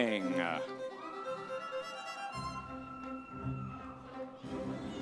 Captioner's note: audience members cheering